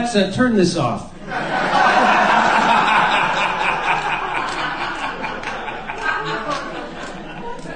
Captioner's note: laughter